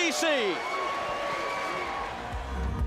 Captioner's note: crowd cheering